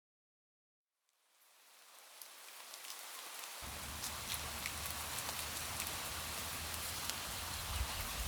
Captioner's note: rain noise